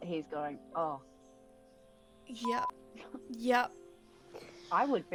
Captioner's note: beep